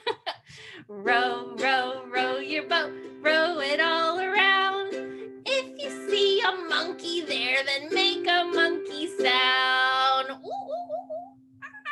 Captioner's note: monkey sounds